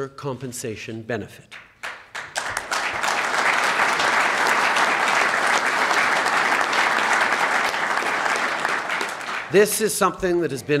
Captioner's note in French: Applaudissements